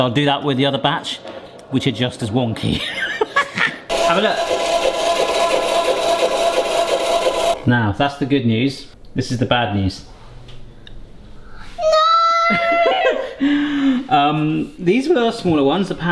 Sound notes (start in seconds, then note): 2.6 laughs; 3.9 ice cream machine whirring